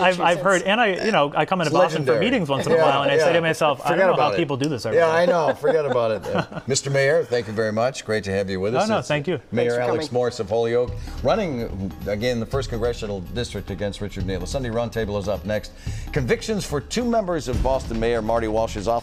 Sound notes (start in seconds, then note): 5.1 laughter